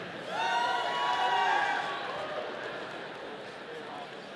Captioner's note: audience cheering